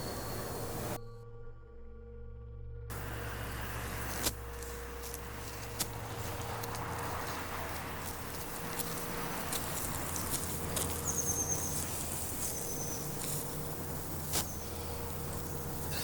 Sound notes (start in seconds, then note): 6.2 car noises and foot steps